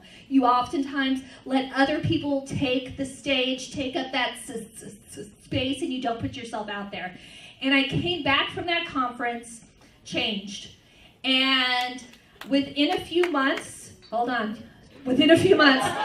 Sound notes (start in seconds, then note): 11.2 one person claps